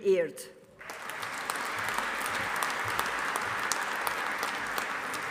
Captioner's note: audience applauding